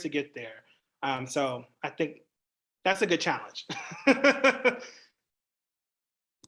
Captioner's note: laughs